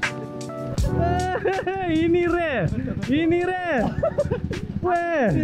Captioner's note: laugh